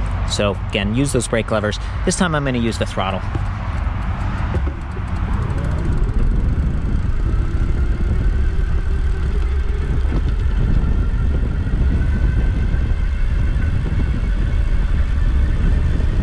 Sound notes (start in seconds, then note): 3.6 bike motor rumbling; 3.6 bike rattling; 8.4 wind gushing